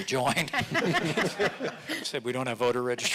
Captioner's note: audience laughing